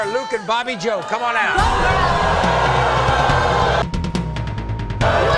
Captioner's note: audience boos